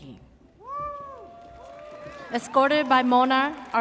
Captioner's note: audience cheers